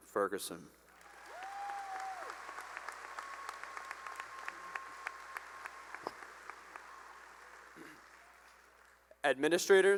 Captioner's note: cheering and applause